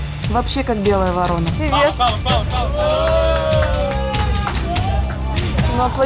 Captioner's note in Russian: кричат и хлопают